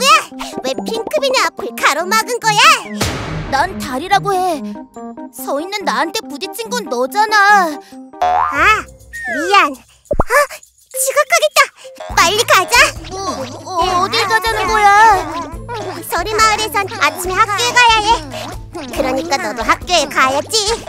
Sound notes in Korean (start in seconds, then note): 3.0 탕, 화면 효과음